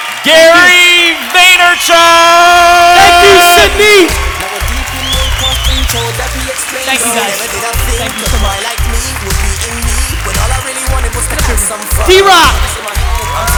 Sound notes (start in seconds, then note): 0.0 applause; 4.5 cheering; 9.0 cheering; 13.3 applause